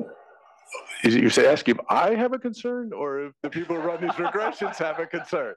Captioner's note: laugh